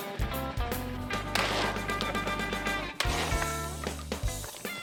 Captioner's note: gun shots